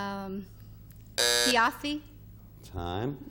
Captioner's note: timer buzzing